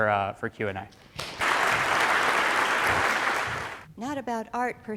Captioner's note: audience applauds